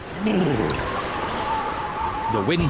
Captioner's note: wind howls